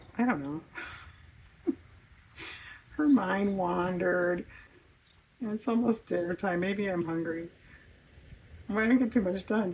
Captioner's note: laughs